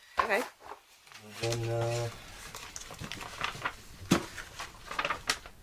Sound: paper rustling

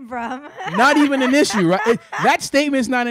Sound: laughing

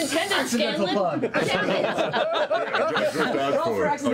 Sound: laughter

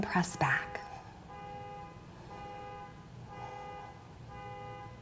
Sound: car alarm blaring

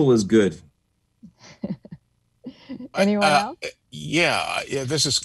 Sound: laugh

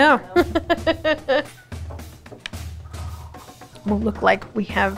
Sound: laughs

